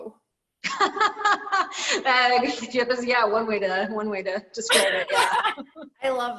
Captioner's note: laughs